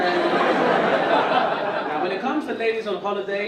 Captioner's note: audience laugh